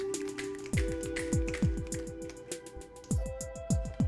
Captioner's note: snapping